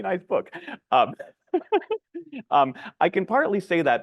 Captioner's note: laughing